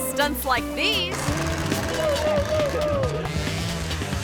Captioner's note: engine revving; friends shouting; motorcycle revving